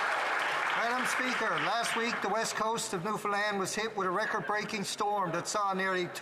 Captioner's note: applause